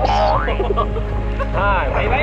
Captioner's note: laughs